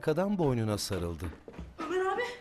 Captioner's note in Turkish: Ayak sesi